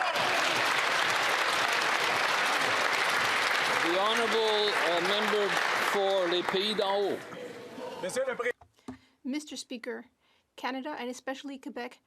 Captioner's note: some Applause